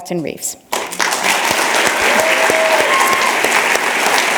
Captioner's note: applause